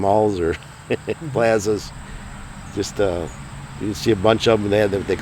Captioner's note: chuckles